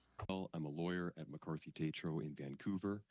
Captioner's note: speaking French